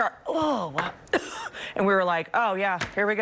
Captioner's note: coughing